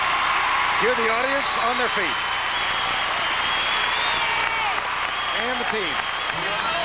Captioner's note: applause